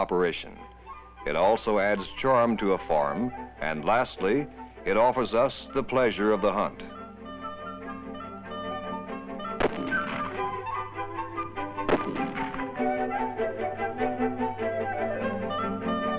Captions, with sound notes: It also adds charm to a farm, and lastly, it offers us the pleasure of the hunt. (gunshots) (beagle baying)